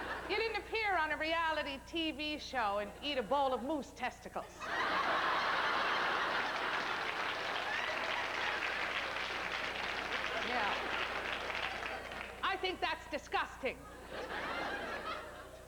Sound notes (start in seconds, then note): 7.6 howling laughter; 9.8 applause